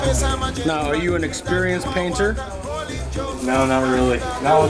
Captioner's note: voiceover